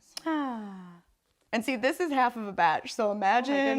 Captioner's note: sighs